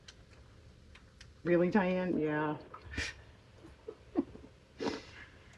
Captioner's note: laughs